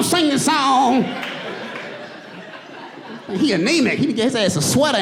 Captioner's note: audience laughs